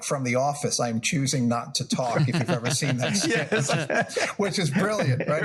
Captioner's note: laugh